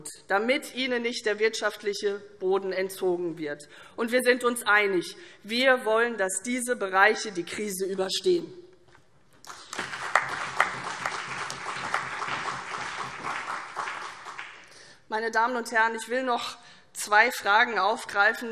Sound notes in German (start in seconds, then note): 9.4 Beifall